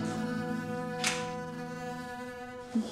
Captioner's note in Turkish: Kapı açıldı